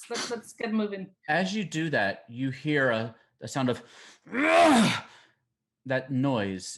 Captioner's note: groaning